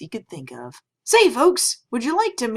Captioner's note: excited